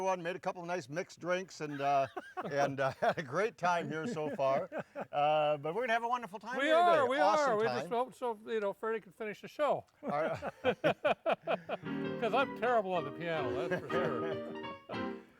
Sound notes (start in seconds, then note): 1.8 laughs; 10.1 laughs